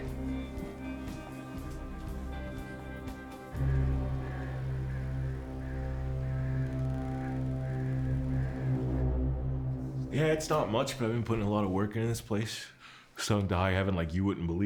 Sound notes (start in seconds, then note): 0.2 light music; 3.9 crows cawing; 3.9 foreboding music